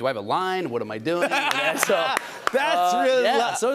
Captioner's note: laughter